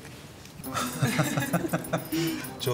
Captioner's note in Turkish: gülüyorlar